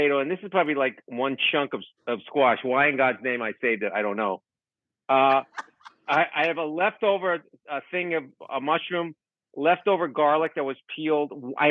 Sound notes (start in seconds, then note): 5.3 Rachael laughing